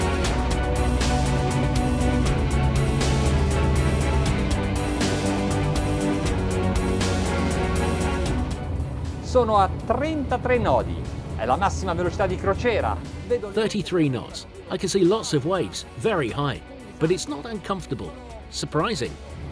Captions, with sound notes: (intense music) (speaking foreign language) 33 knots. I can see lots of waves, very high, but it's not uncomfortable. Surprising.